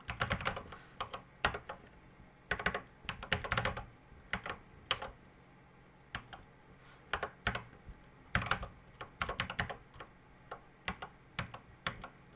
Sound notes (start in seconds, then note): 1.2 typing on a C64 keyboard